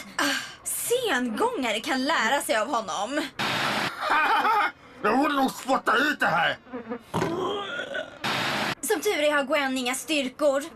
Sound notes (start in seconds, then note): 3.9 laughs; 6.4 snores